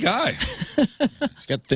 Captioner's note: laughing